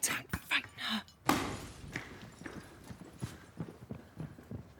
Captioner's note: glass Shatters